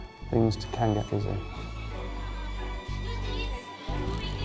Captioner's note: card reader beeping; staff chattering indistinctly